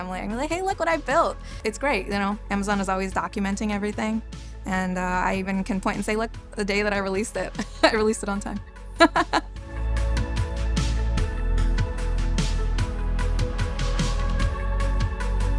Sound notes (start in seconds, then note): 8.9 laughing; 9.0 chuckling; 10.3 upbeat music